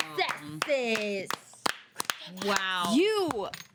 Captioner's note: women clapping